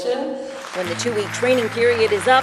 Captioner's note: clapping